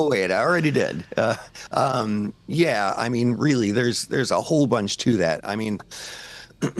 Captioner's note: chuckles